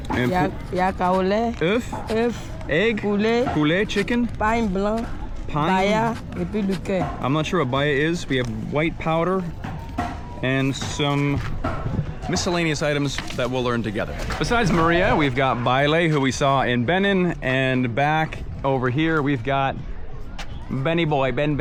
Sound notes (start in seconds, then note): 0.2 both speaking in foreign language; 7.9 speaking in foreign language